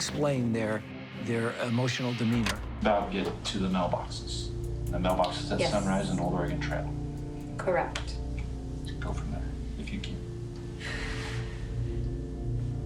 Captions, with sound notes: their emotional demeanor. [clicking] About getting to the mailboxes. The mailboxes at Sunrise and Old Oregon Trail. Yes, correct. Go from there if you can. [dramatic music]